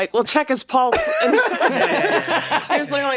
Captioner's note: everyone laughs